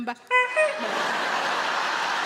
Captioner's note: Sarah imitates horn honking; audience laughing